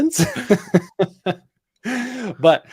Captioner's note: laughter